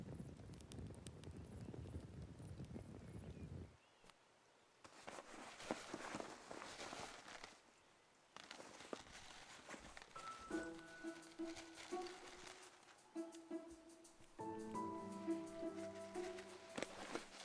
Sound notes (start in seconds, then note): 4.9 bag rustling; 10.1 gentle orchestral music